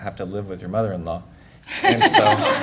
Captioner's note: laughter